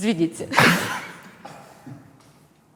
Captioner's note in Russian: смеется